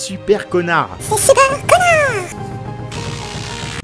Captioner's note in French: voix aiguë